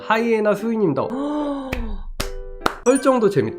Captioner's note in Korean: 짝짝짝